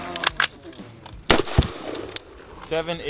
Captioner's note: intense rock music continues; weapon clicking and firing